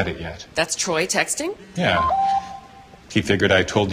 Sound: phone beeps

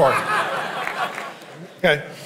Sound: congregation laughing

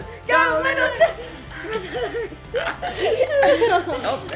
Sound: laughing

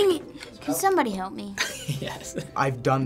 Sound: Benny Fine laughs

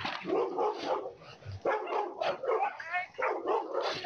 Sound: dogs barking

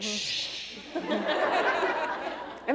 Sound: laughter

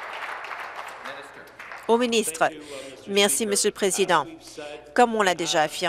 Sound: applause

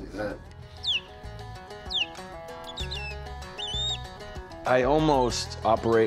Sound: bird chirping

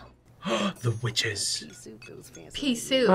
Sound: gasps

